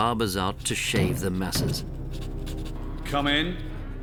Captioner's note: knocking on door